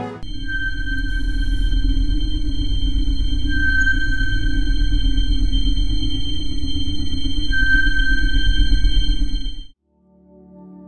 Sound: sonar sounding

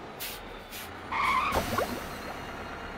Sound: screeching

